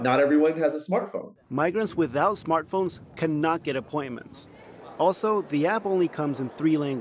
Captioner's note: voice-over